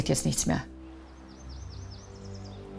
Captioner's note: birds chirping